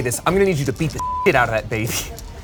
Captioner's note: beep